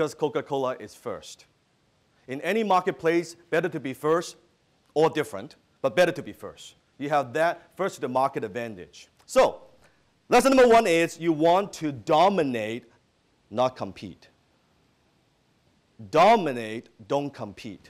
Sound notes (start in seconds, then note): none